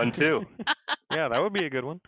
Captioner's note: laughter